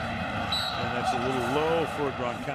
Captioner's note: whistle blows